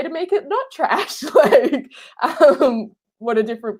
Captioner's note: laughing